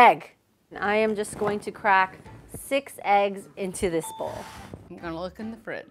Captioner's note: ding